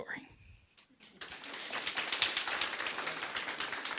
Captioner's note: applause